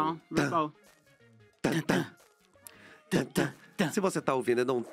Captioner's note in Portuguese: ambos cantarolam